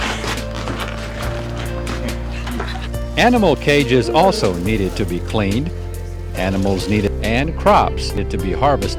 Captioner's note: laughter